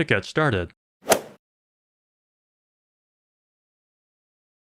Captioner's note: golf ball hit sound